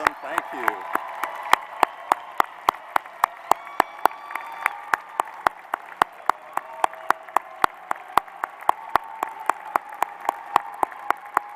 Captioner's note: applause